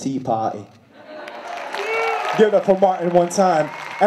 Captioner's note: applause